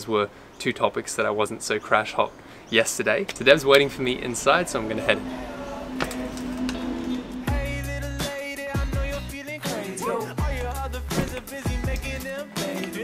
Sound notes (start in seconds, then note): 9.8 woo